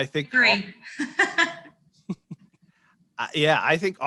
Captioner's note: laughs